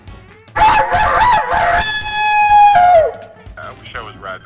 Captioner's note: imitating rooster crowing